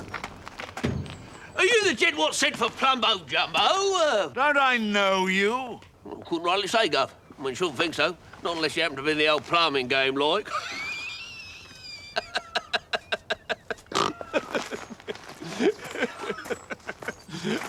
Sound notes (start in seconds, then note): 10.4 Tuppy laughs and snorts